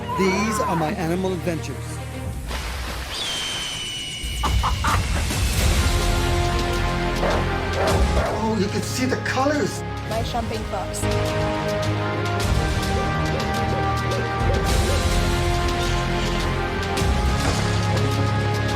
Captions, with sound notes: These are my animal adventures. (eagle squawks) (adventurous music) You can see the colors. - My jumping fox.